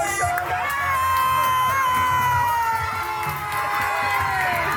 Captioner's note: loud shouting and cheering